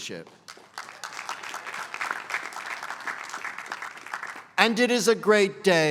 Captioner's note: applause